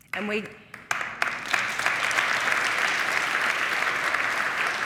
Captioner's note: audience applauding